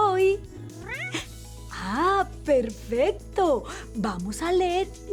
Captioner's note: meows